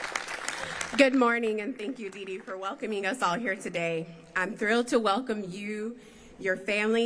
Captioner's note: applause